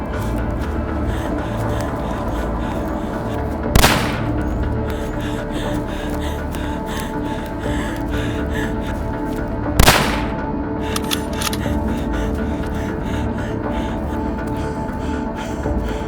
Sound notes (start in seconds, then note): 0.4 suspenseful music; 3.7 gun firing